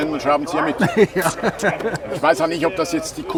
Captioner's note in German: lacht